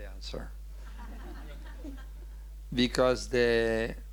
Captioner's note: audience laughing